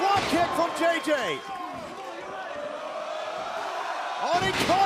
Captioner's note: crowd cheering